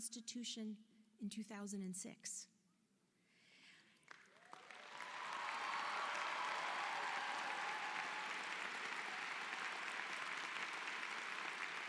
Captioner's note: applause